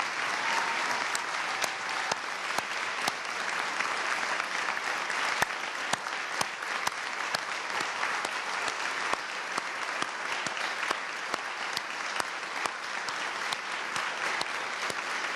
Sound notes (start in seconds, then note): 4.0 applause